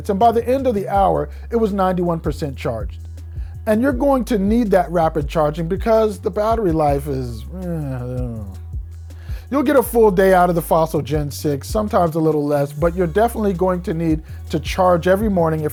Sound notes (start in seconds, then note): 7.4 grumbles